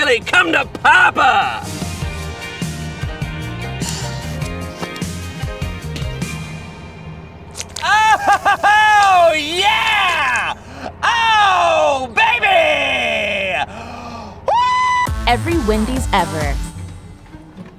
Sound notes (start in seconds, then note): 1.3 upbeat groovy music; 7.5 chili squelching; 7.5 customer cheering